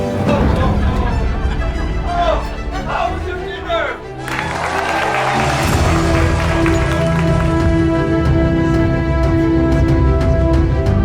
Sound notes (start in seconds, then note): 4.1 crowd cheering and clapping; 6.4 dramatic music